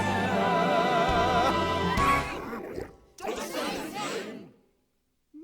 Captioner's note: squawk!